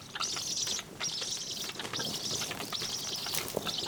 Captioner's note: storks nattering